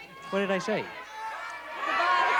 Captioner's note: chatter